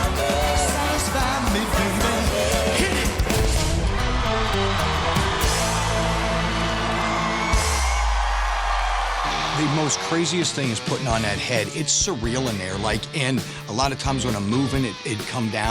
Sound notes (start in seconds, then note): 3.7 cheering